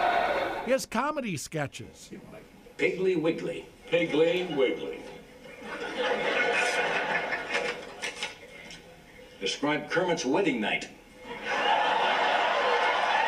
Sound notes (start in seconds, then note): 5.4 audience laughs again; 11.2 audience laughs again